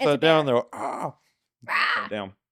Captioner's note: cat meowing; groaning